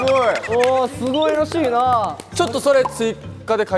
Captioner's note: hahahaha